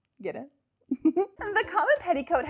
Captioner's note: giggles